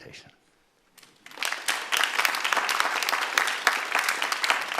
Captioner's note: audience applauding